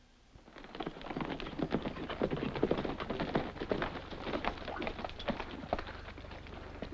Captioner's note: galloping